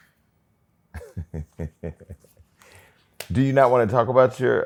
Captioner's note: laughs